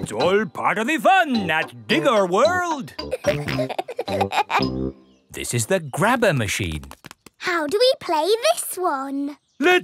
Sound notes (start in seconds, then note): 3.0 peppa and george laughing